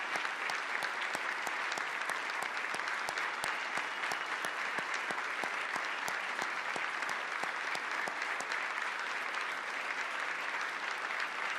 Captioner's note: applause